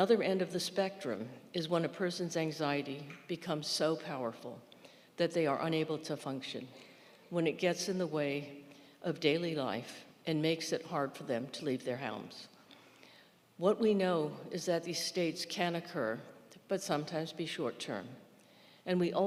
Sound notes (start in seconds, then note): none